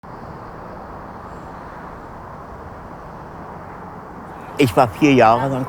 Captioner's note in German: entferntes Geräusch nächtlichen Straßenverkehrs, Menschenstimmen; männliche Stimme, Berliner Dialekt